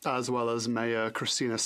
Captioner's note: speaking French